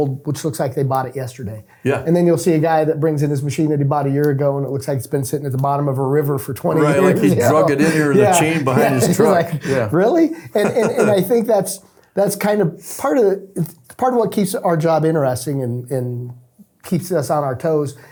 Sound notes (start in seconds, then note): 10.5 laughing